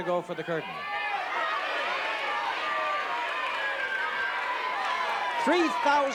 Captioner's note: chatter